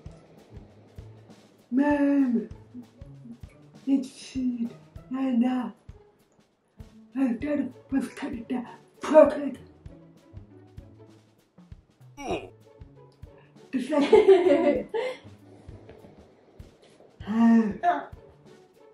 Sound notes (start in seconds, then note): 12.2 minecraft oof; 13.9 giggles